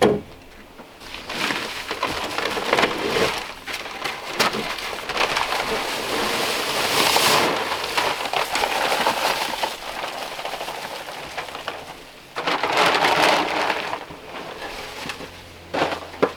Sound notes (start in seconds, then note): 8.6 rustling